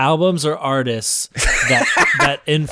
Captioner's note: laughs